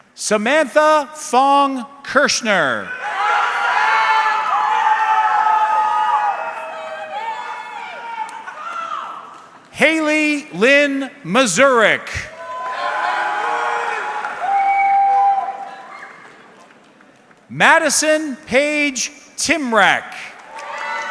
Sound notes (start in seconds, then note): 2.9 audience cheering; 12.3 audience cheering; 20.2 audience clapping